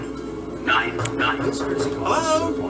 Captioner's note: door knocking